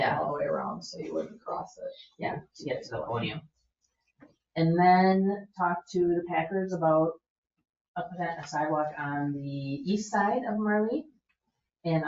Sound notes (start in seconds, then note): none